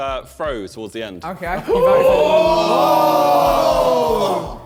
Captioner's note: men exclaiming